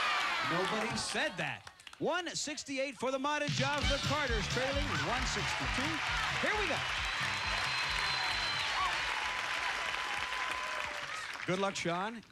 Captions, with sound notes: NOBODY SAID THAT. 168 FOR THE MATEJOVS. THE CARTERS TRAILING WITH 62. HERE WE GO. [cheers and applause] GOOD LUCK, SHAWN. GOOD LUCK, JUDY.